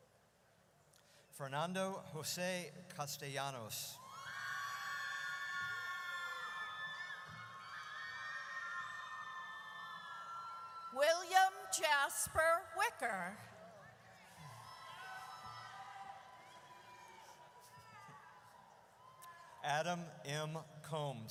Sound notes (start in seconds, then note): 4.0 audience cheers; 14.2 audience cheers